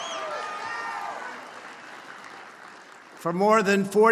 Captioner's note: applause